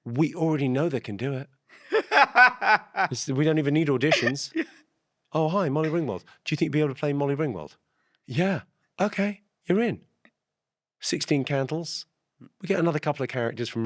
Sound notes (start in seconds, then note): 1.8 Ahir laughs